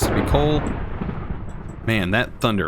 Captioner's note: thunder crashes